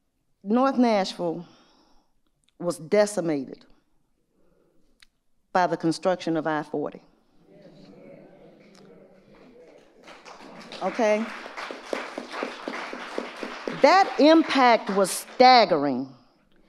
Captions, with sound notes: North Nashville was decimated by the construction of I-40. (audience murmuring in agreement) Okay. (audience applauding) That impact was staggering.